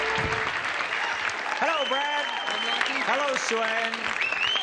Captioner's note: audience claps